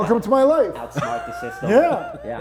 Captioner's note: laughing